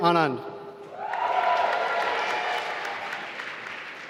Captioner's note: applause